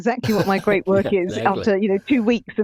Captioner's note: chuckling